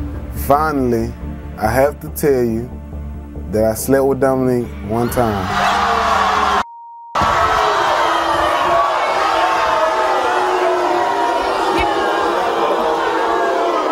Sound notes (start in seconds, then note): 5.6 audience gasping; 7.1 audience booing